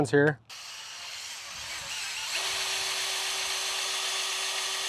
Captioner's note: drill whirring